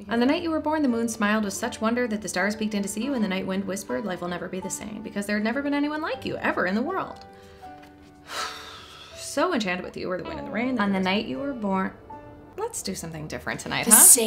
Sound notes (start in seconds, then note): 8.3 big sigh